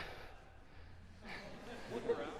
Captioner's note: laughter